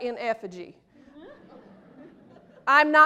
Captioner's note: laughter